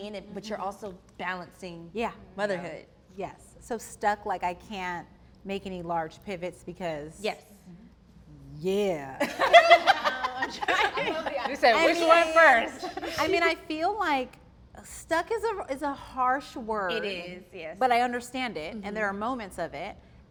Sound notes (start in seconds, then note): 9.3 all laugh